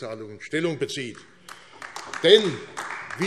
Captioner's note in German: Beifall AfD